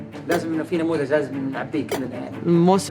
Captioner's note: speaking Arabic